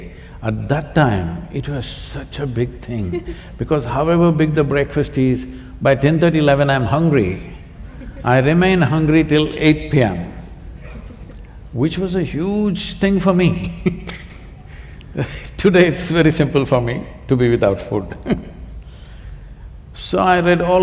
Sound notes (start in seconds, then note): 14.8 laughs